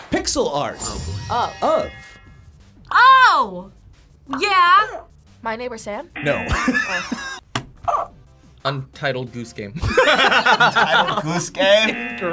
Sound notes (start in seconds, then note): 6.1 buzzer barks; 6.1 buzzer; 6.4 laughs; 9.8 both laugh; 11.6 buzzer